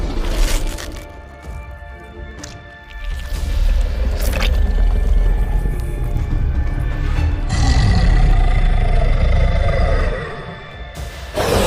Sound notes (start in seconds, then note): 8.3 deep growl